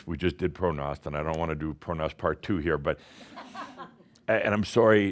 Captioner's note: some chuckles